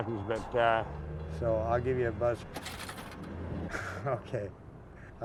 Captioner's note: payphone rattles